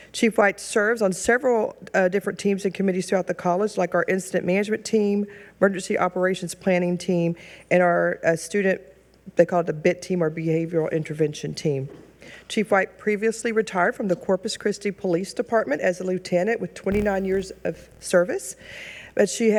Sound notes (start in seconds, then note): none